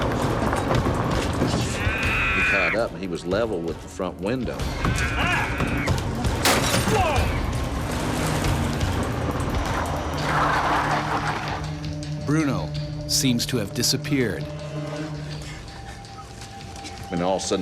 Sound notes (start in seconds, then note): 6.4 glass breaking; 10.4 tires squealing; 13.0 voiceover